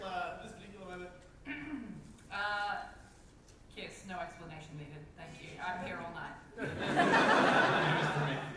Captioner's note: clears throat